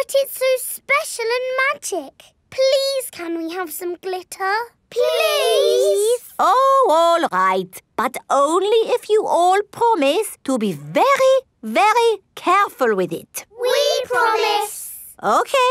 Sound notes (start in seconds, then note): none